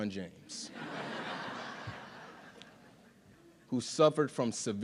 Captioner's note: audience laughing